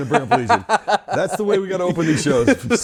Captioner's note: laughs